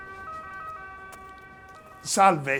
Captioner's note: ambulance in background